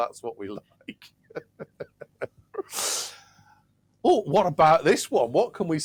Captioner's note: laughs